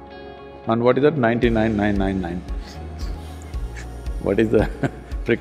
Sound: laughs

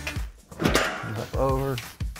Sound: machinery clanks

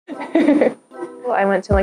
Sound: laughing

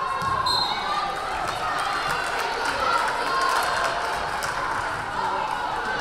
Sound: crowd cheering; whistle blaring

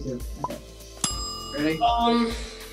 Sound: timer ding

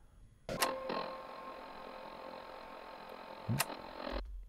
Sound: static high note

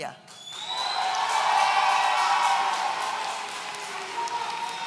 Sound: audience cheering

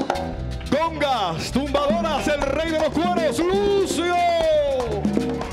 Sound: MC speaking in Spanish

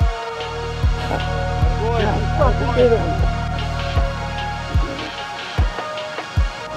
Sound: celebratory crying

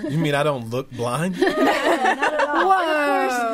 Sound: all laughing

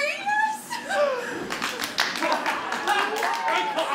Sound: applause

